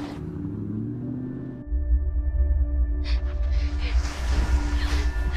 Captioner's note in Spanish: Ruido del vehículo en marcha